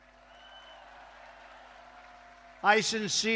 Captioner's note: applause